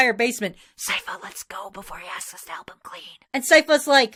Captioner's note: whispering to Sypha